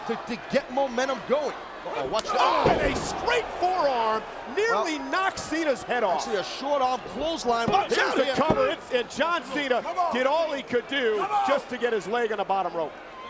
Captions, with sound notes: to get momentum going. Uh-oh, watch this. (hit smacking) A straight forearm, nearly knocks Cena's head off. Actually a short-arm clothesline. Here's the cover, and John Cena did all he could do to just to get his leg on the bottom rope.